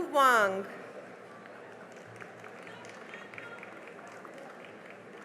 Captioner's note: cheering and applause